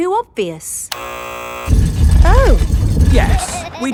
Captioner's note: buzzer sounds